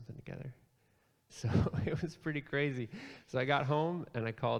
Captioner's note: laughs